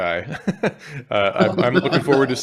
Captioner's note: laughs